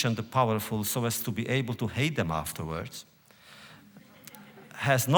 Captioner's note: laughter